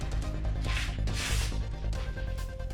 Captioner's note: tears a new piece of paper